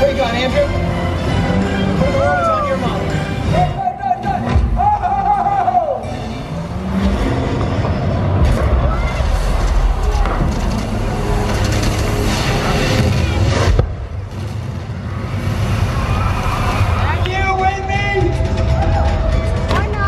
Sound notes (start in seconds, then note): 7.6 plane engine roars; 11.2 explosion; 14.5 audience clapping